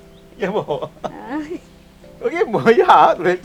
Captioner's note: laughing